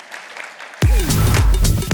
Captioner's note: applause